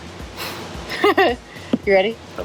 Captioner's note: laughs